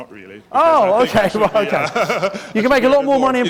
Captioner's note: laughing